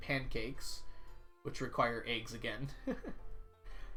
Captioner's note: laughs